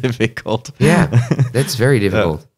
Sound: laughs

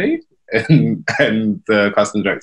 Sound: laughs

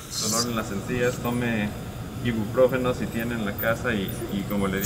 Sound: man speaking Spanish

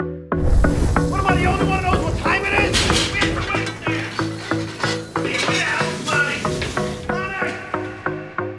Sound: shouting orders

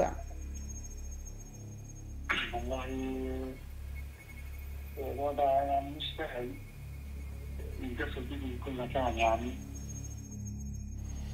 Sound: speaking alternate language

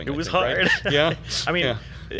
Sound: both laugh

